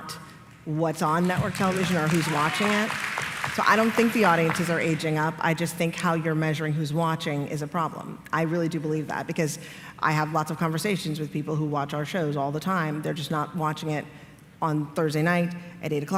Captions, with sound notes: not what’s on network television or who is watching it. [applause] I don’t think the audiences are aging up. I just think how you are measuring who is watching is a problem. I really do believe that because I have lots of conversations with people who watch our shows all the time. They are just not watching it on Thursday night